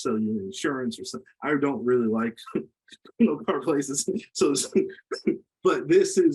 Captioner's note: laughs